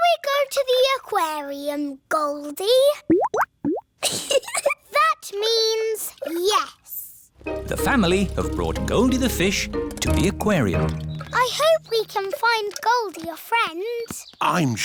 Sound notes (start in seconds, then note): 3.0 bubbling; 4.0 giggles